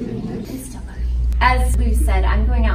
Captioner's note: audience laughs; whispers